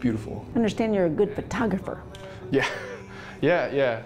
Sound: laughs

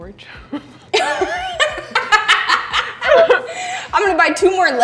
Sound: both laughing

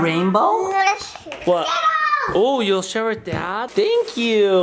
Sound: babbles

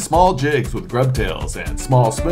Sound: none

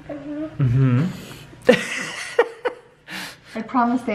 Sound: laughs

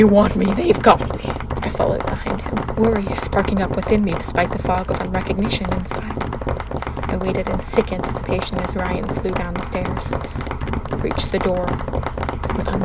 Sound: knocking ends

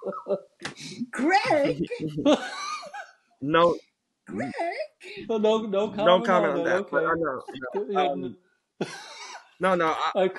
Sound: laughs

